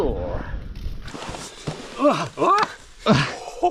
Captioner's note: screaming